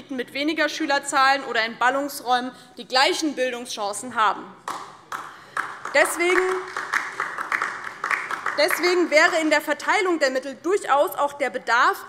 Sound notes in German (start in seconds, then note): 4.6 Beifall DIE LINKE und vereinzelt SPD